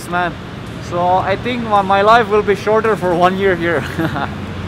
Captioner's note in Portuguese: risos